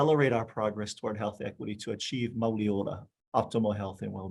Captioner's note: speaking foreign language